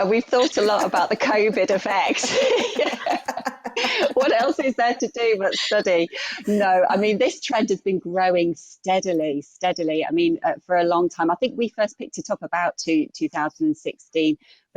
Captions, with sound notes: We've thought a lot about the COVID effect. [LAUGHTER] What else is there to do but study? No, I mean, this trend has been growing steadily, steadily for a long time. I think we first picked it up about 2016